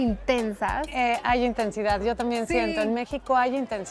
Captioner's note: speaking Spanish